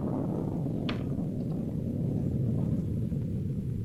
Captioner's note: thunder rumbling